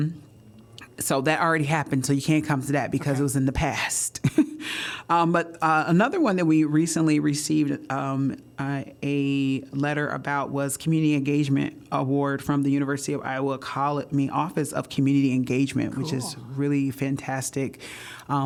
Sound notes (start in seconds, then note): 4.2 laughter